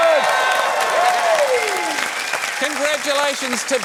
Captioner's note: cheering, applause